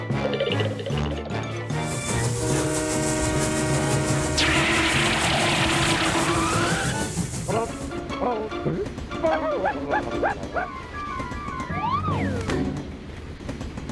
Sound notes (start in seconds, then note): 2.0 train horn blowing; 4.3 screeching; 10.2 barking